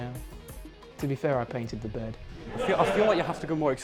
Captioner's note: laughter